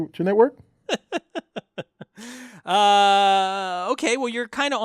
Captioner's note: laugh